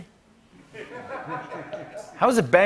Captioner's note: laughter